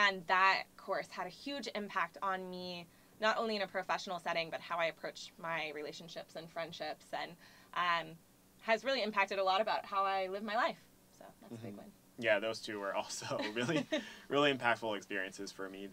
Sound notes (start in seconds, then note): 13.2 laugh